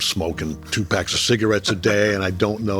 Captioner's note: chuckling